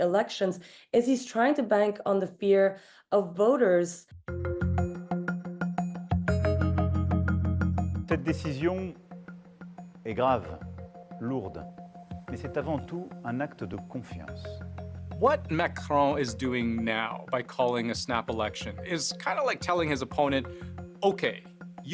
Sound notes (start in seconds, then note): 11.4 speaking french